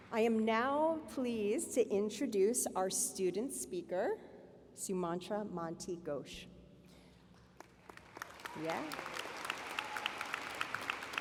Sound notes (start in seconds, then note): 0.0 applause; 7.5 applause